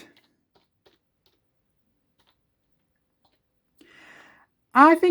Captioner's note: keyboard typing sound